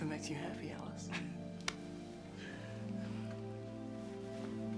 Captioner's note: laughing; soft music